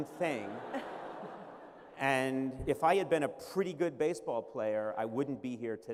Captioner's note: laughter